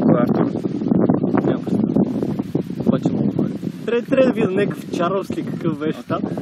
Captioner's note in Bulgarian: чува се вятър